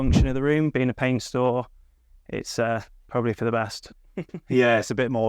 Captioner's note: chuckles